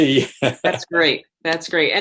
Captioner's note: laughs